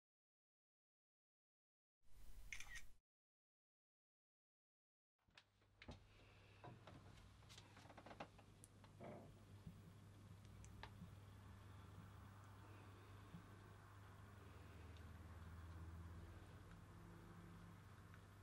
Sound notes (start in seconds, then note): 2.3 camera shutter